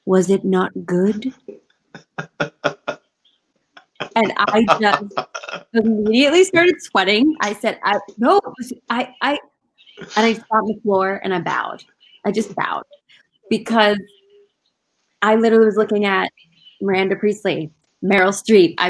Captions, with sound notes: Was it not good?" (laughing) And I just immediately started sweating. I said- (stammering) And I just sat on the floor and bowed. I just bowed, because I literally was looking at Miranda Priestly, Meryl Streep.